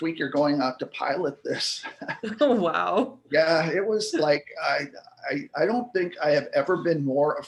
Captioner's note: laughs